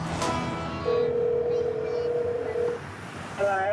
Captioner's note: phone ringback tone